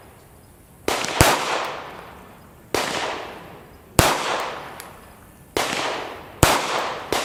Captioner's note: gunshots